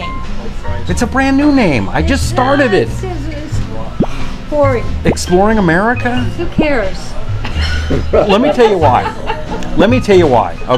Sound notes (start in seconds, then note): 7.5 laughter